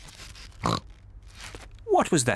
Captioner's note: snorts